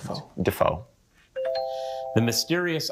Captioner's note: bell dings